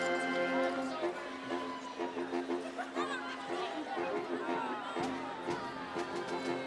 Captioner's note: lively majestic music; audience chattering